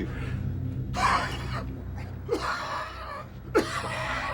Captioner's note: Gordon coughs